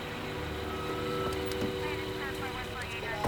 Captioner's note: brakes squeaking